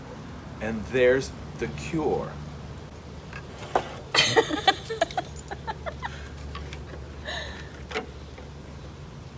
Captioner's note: giggles